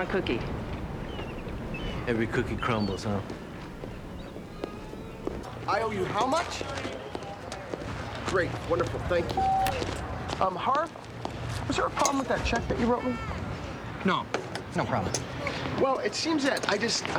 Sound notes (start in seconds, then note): 9.3 phone beeps